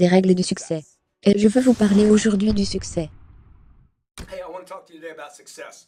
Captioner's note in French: bruyant swoosh